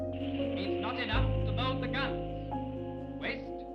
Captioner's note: radio Announcer